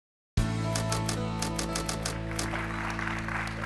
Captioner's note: typewriter typing; audience clapping